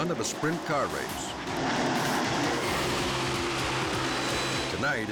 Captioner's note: engines roar